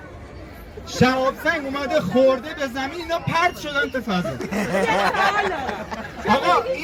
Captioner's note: people laugh